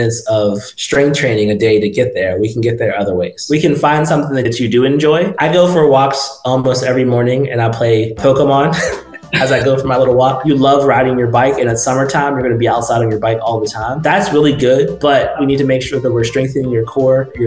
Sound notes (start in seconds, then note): 8.7 laughs